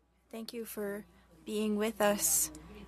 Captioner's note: speaking French